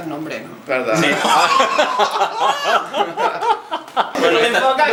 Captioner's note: laughs